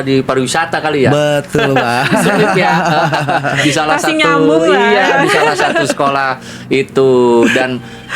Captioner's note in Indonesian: tertawa